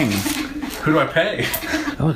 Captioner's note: laughs